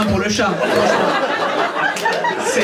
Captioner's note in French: rires public